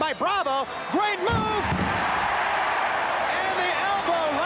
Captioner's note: applause